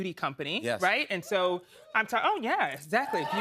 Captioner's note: scattered cheers